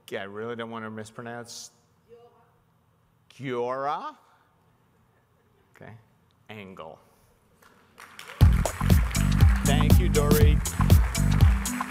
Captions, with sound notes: Okay, I really don't wanna mispronounce... Giora? Okay. Angle. (audience applauding) (club music) Thank you, Dory.